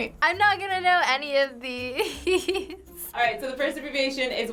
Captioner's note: laughs